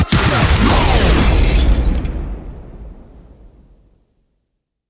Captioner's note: glass breaking